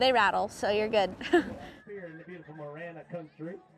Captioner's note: laughs